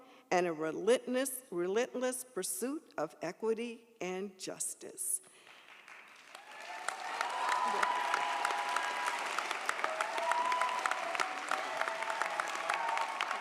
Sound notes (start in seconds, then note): 5.4 audience applauds